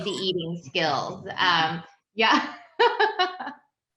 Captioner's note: laughs